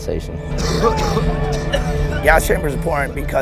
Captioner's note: coughing